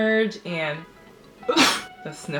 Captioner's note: sneeze